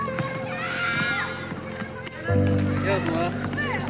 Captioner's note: child exclaims; speaks foreign language